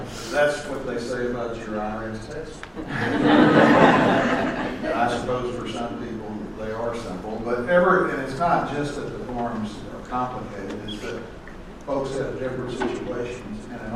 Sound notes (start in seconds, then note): 2.8 laughter